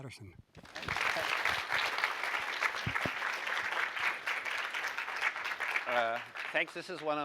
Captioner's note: applause